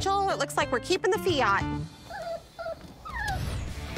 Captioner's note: dog whimpering